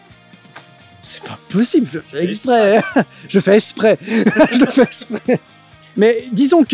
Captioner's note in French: Rires